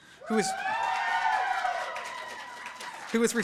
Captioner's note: cheering